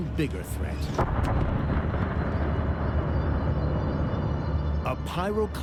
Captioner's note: explosion echoes